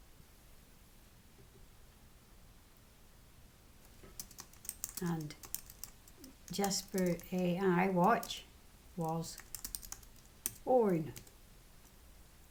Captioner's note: typing